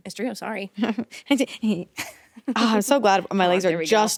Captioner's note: both giggling